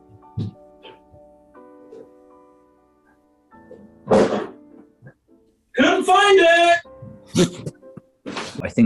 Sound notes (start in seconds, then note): 4.0 clattering; 7.2 sniggering